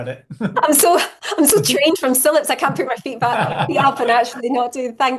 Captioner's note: laughing